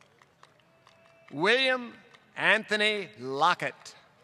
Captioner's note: applause